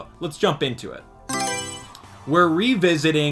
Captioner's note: Mario Selection Sound